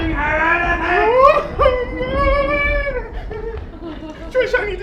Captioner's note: alfred squeals; thunder roars